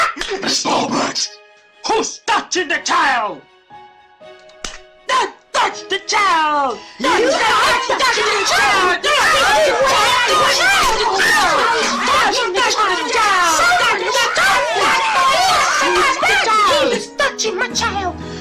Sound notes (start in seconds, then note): 0.0 slap; 4.6 slap; 7.1 All slugcats yelling about not touching the child; 11.2 still yelling